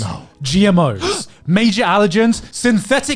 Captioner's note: guys gasping